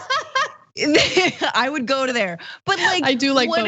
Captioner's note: laugh